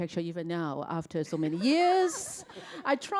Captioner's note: laughter